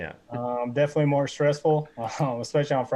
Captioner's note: laughing